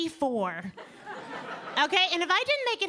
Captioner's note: audience laughing